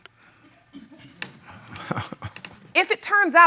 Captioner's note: chuckling